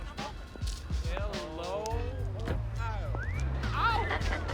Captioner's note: players whistling; laughing